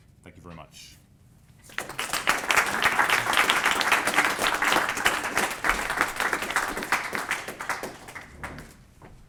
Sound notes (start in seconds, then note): 1.6 applause